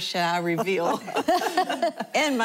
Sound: laughing

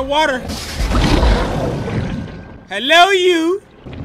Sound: growling

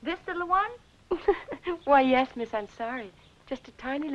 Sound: laughing

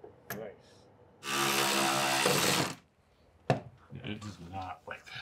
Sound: tool whirring

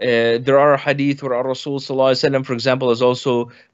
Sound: speaks in foreign language

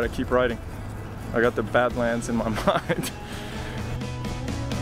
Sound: chuckles; bright country music

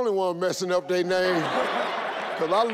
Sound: all laugh

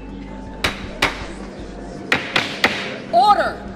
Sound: smacking

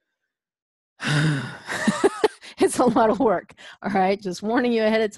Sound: sighs; laughs

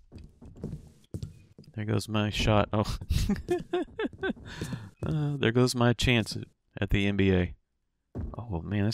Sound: laughs

